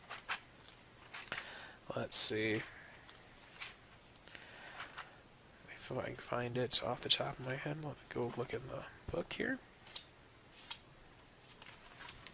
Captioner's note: mumbling and page flipping